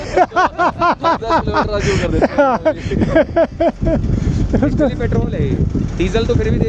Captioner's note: everyone is laughing